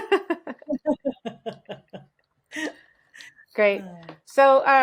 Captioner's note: laughing; laughs